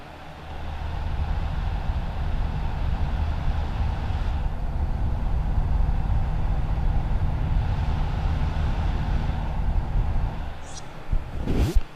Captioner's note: light wind noise; sound of removing dead cat windscreen